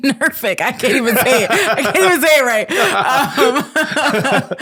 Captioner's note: laughing